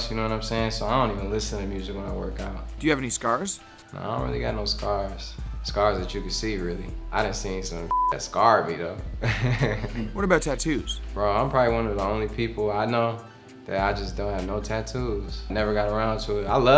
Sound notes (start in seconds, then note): 7.9 beep; 9.2 laughs